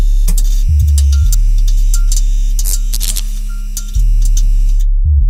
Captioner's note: electricity buzzes; electricity pops; electricity buzzes